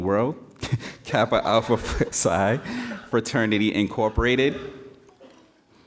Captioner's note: laughing